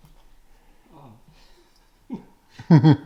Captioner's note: laughs